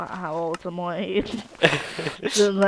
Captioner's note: laughing